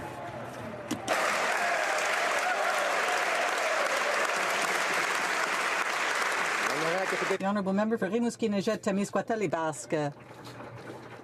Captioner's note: some Applause